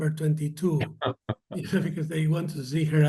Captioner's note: laughter